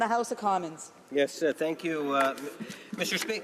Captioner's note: some Applause